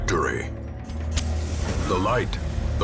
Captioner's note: match strike and hiss